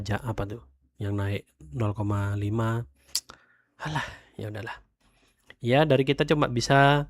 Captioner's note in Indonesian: menghela napas